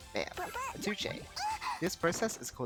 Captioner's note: opponent yells for help